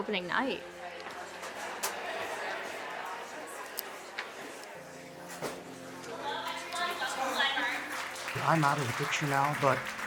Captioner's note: audience Background Noise